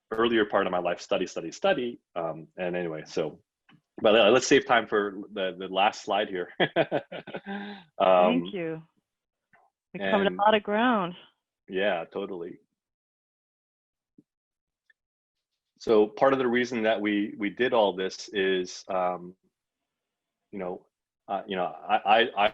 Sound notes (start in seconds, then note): 6.4 laughs